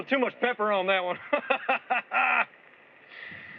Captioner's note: laughs